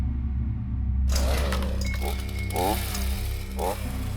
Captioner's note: chainsaw revs; ominous music